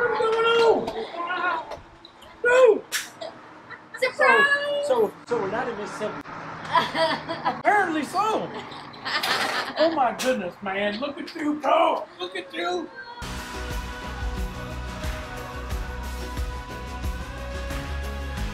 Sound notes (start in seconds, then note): 8.3 laughs; 13.2 lively music